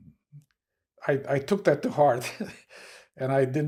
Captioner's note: laughing